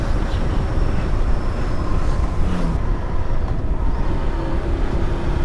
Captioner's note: engine rumbling